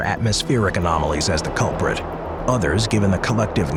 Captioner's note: wind blowing